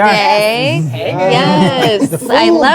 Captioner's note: group clamoring